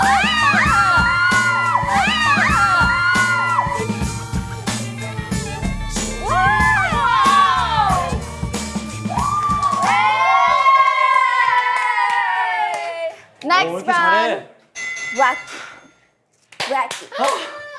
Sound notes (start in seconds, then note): 1.9 shrieks♥